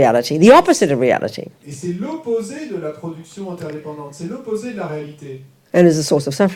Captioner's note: audience member speaks in French